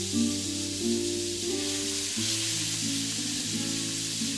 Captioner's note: searing